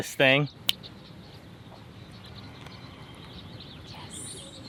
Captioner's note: fingers snap